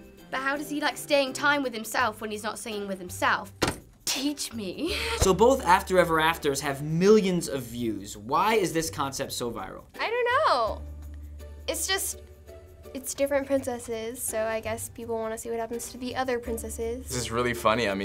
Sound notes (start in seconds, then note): 4.5 chuckle